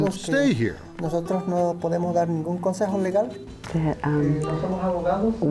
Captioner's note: speaking in Spanish